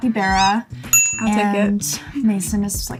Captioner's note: capybara squeaks; bell dings